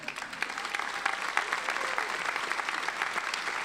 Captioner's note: applauding